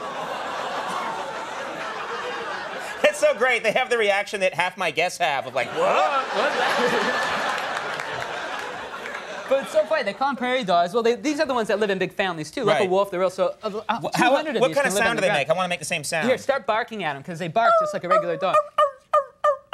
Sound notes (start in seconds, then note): 5.6 audience laughing; 17.6 Conan O'Brien barking